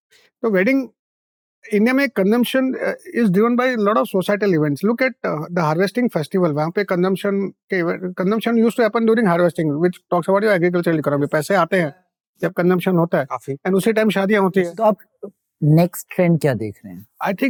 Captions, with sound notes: In India, consumption is driven by a lot of societal events. Look at the harvesting festival, There, consumption used to happen during harvesting, which talks about your agricultural economy. [speaking in Hindi] [speaking in Hindi]